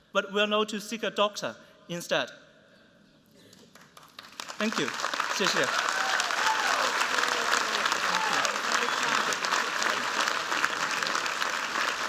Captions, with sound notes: but will know to seek a doctor instead. Thank you. [MANDARIN] [APPLAUSE]